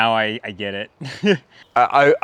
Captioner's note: man laughing